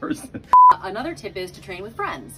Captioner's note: beeps